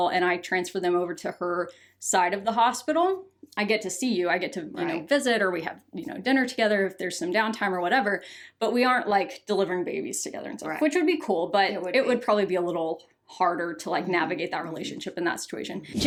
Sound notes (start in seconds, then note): none